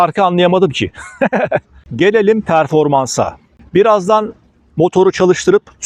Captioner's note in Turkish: kahkaha